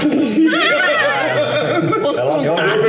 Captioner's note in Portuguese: Risadas